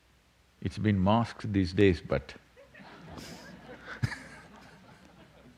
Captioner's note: laughter